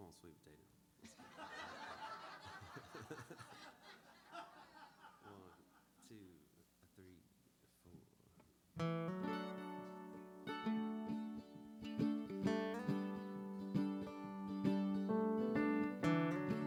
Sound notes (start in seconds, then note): 1.0 more laughter